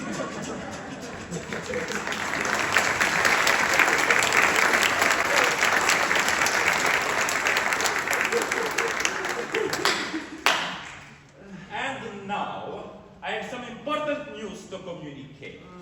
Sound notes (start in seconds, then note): 0.0 laughter, applause; 9.4 DON ALHAMBRA gives two loud, condescending claps